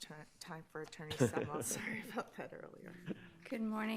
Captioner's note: laughs